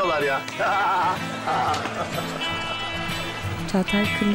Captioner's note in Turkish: Gülme sesi